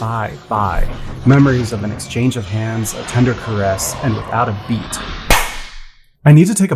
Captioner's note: slap